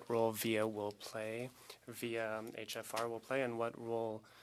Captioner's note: speaking French